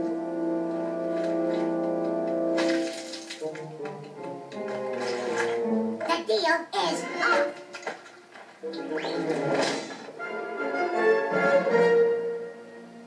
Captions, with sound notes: - The deal is off! - (conk) (thud)